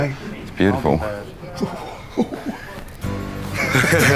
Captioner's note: all laughing